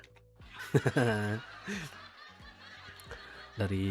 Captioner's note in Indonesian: tertawa